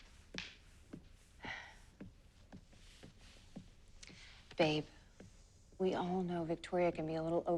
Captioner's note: sighs